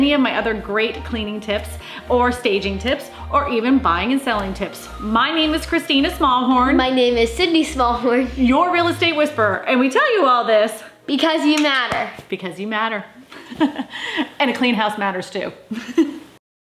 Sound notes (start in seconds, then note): 13.7 laughs; 15.9 laughs